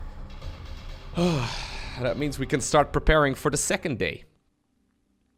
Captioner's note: sighs